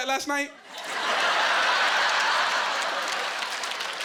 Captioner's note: laughing and applause